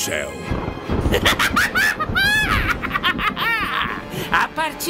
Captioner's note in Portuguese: Risada gélida e maléfica da Bruxa